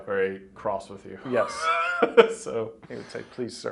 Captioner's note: laughing